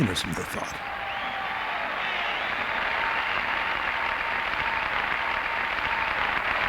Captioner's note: crowd cheers